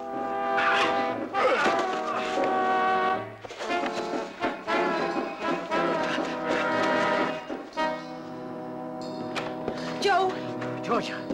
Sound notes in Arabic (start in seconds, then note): 1.4 خرخرة